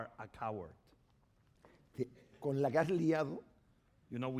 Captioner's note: speaking spanish